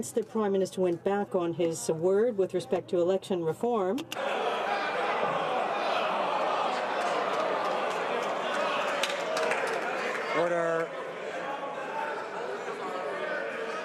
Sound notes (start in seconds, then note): 2.9 some laughter